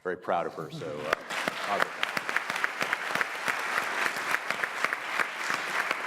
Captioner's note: audience applauding